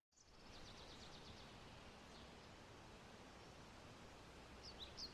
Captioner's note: birds chirping